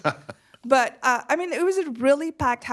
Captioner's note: laughter